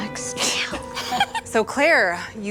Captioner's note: laughs